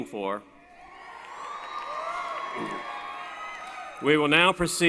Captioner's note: cheering